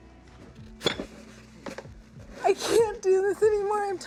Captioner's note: sobbing